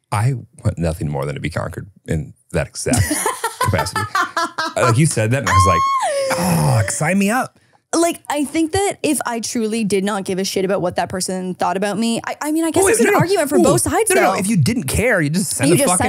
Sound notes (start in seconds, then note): 2.9 laughing